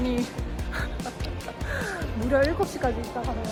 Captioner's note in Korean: 실소